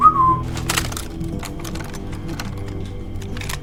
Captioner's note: Jack whistling